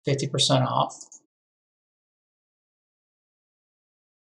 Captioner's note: mouse clicking